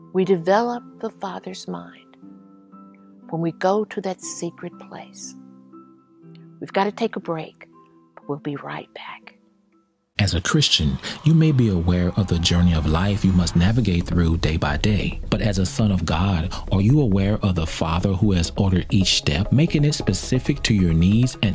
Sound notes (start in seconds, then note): 10.4 voiceover